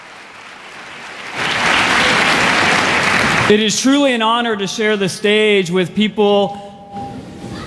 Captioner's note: applause